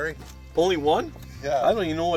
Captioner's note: voiceover